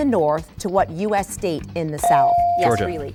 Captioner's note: bell dings